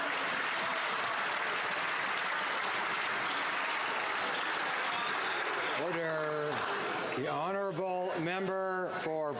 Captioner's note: some Applause